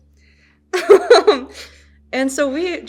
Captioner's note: chuckles